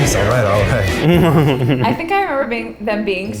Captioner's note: Ned laughs